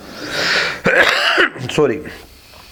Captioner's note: coughs